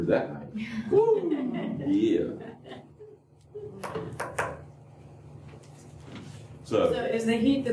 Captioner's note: laughter